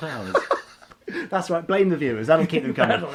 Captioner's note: laughing